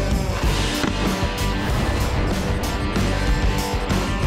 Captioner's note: gunshot